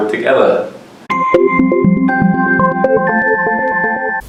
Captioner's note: bells chiming